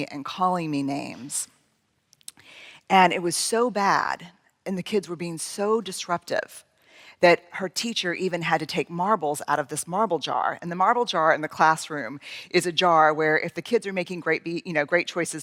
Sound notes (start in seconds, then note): none